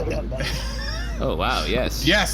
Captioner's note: beep of walkie talkie; sloshing, slorping sound